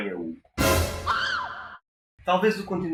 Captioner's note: scream